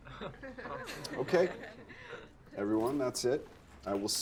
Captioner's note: students chuckling